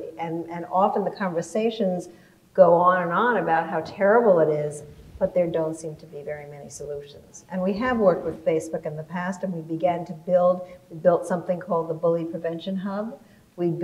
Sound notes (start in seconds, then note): none